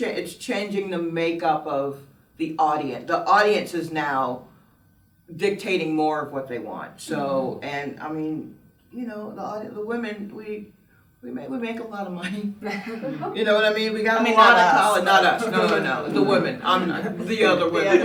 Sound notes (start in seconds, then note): 12.7 laughs